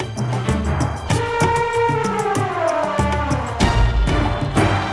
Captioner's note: elephant trunk roaring